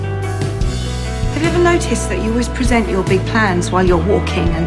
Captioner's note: voiceover